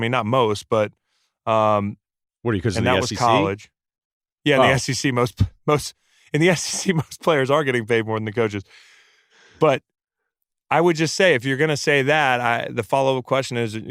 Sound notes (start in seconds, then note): 4.5 laughs